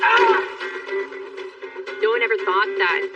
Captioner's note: grgroaniningng